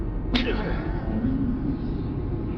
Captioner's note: Lang grunts; dark music